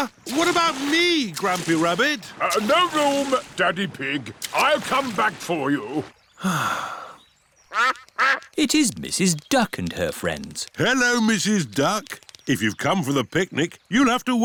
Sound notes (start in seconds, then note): 6.3 sighs; 7.7 quacking